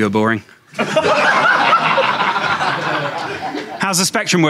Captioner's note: audience laughing